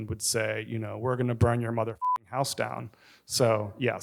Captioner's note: beeps